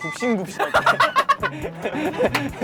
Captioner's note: laughing